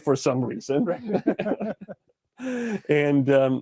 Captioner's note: laughs